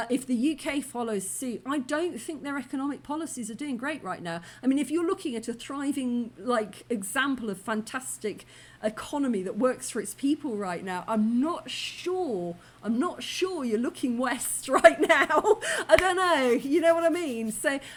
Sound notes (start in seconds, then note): 14.7 laughing